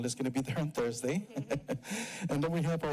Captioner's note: chuckles